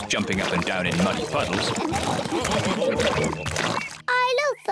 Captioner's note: oinks